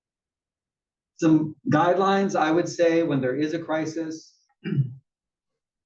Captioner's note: cough